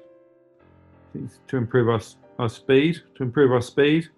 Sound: mumbles

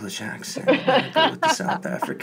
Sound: laughs

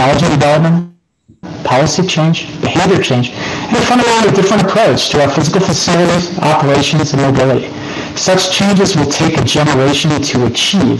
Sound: distorted audio

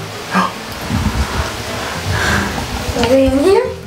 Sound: gasps

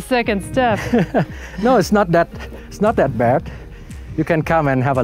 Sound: laughing

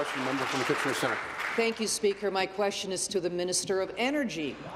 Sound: applause

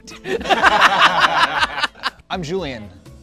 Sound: group laughs

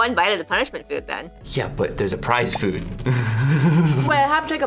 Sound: laughs

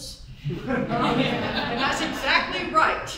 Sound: audience chuckles

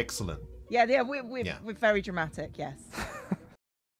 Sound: laughter

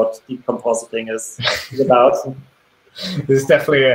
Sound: laughs

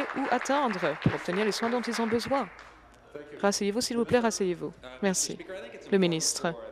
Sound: applause

